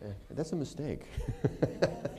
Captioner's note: laughter